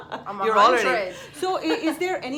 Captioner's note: laughs